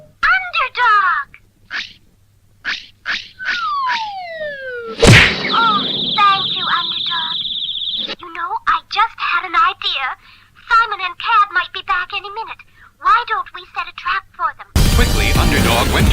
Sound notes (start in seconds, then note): 5.0 crash!